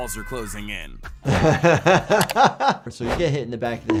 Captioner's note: laughs